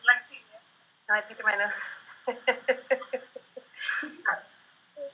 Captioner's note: chuckles